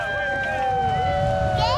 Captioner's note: cheering